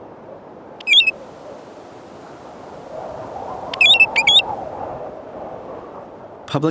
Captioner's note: bird calls